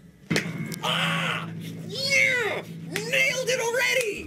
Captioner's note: excited screams of a victorious theorist